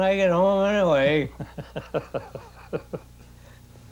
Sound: man laughing

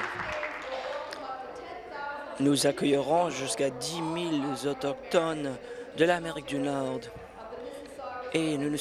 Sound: applause

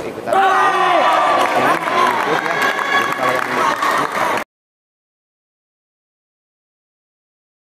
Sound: applause

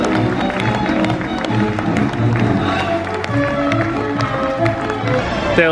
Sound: audience applauding

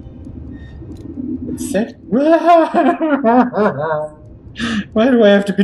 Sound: desperate laughter

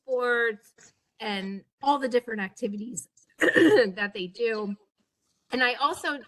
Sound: cough

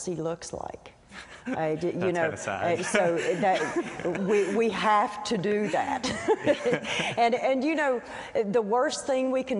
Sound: laughs

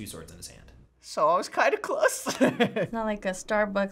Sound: laughs

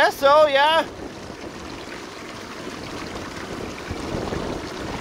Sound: water burbling

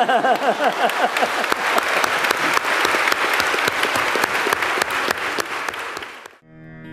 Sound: laughter and applaud

